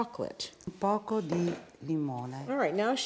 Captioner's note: speaking Italian